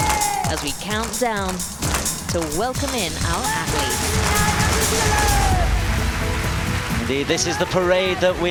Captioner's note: cheering and applause